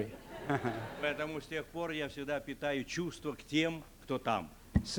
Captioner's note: laughter; non-english speech